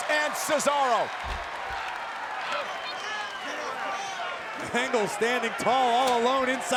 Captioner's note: applause